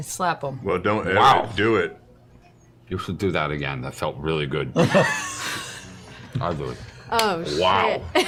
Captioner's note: slurring